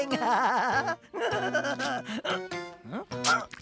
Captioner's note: giggling